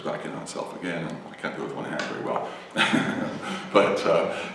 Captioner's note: laughs